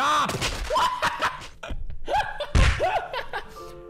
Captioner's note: laughter